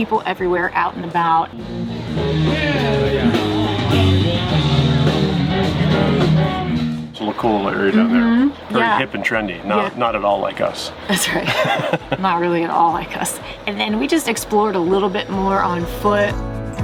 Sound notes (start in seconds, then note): 2.4 live rock music; 11.1 laughs